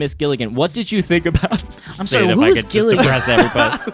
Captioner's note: laughs; laughing